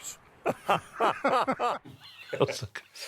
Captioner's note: both laughing; laughing